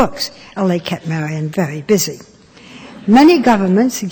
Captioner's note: laughter